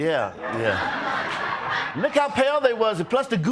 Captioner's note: audience laughs